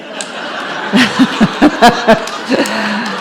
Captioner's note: audience and Katie laugh